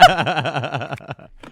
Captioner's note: laughing